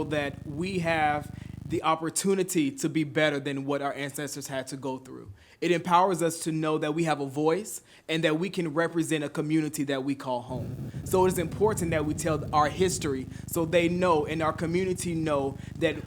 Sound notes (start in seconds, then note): none